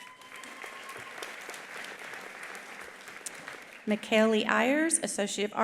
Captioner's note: attendee cheering; attendees applauding